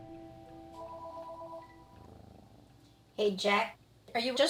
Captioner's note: phone ringing